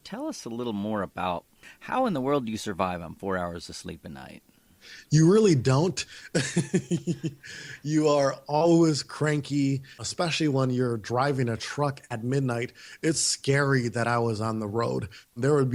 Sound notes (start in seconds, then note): 6.2 laughs